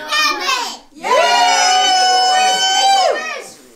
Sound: family cheers

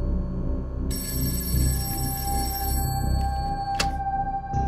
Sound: phone ringing

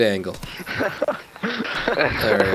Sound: laughter

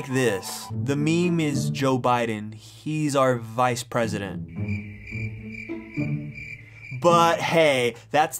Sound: crickets Chirping

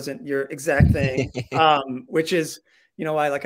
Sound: laughing

